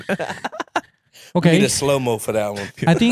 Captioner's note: laughing